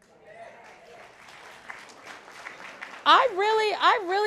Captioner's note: audience clapping